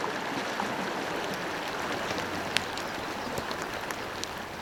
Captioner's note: crackling fire